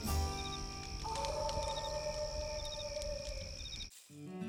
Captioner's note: cicadas chirping; fire crackling; wolf howls